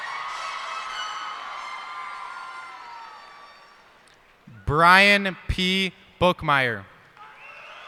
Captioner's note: cheers and applause